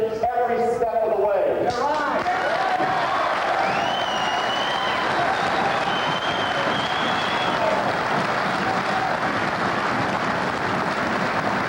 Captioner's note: applause